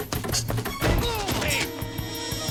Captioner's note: grunting